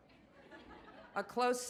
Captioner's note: audience laughs